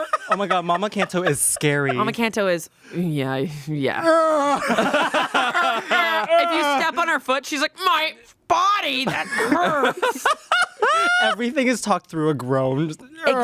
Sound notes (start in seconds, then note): 3.6 grunts; 4.3 everyone laughs; 9.1 everyone laughs